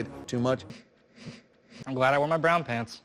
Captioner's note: short breaths